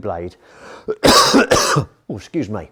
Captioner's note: coughing